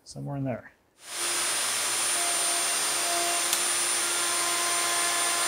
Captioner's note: machine whirring